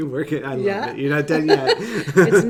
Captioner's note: laughing; laughs